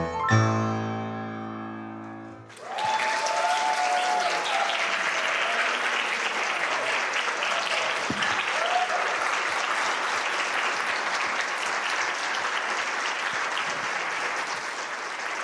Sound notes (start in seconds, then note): 2.5 applause